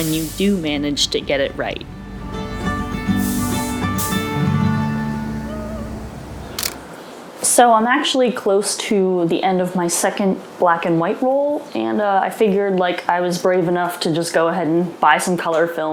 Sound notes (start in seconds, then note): 5.4 celebratory whooping; 6.6 shutter clicks